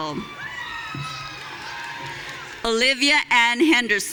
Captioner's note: audience cheering